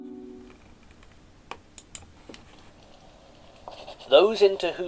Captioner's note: sound of pen on paper